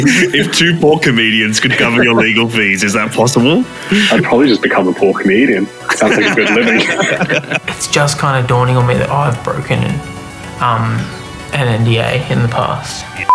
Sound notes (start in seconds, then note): 5.8 all laughing; 13.2 beep